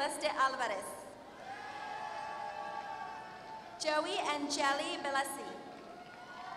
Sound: applause

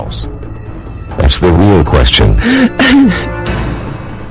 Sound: fake sob

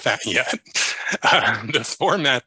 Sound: chuckles

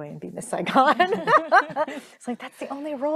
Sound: group laughing

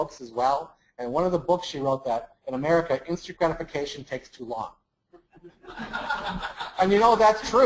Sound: laugh

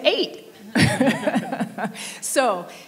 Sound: laughing

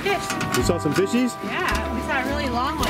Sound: voiceover

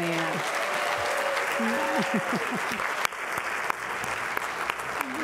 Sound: applause

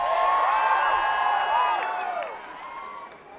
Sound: applause

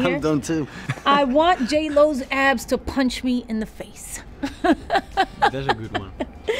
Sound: laughs

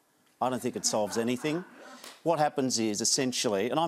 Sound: laughter

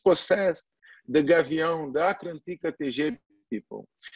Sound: foreign language

